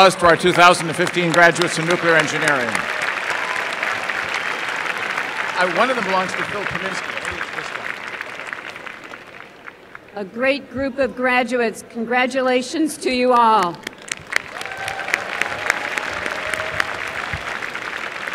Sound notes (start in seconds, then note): 2.8 applause; 13.5 applause